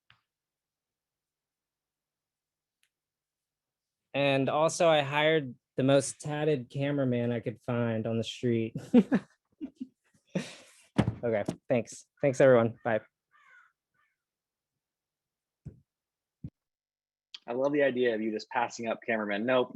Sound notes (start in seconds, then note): 9.6 laughs